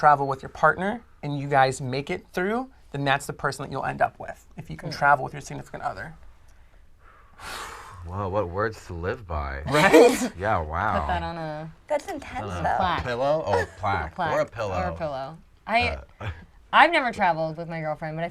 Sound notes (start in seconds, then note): 6.5 exhales